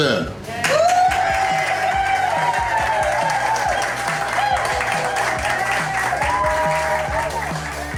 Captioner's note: crowd clapping and cheering